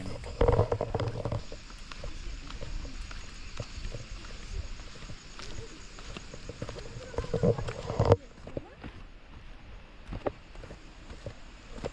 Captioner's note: sound of Nature